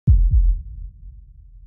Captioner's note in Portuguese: som de batimentos cardíacos